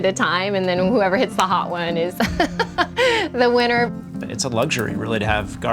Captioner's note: laughing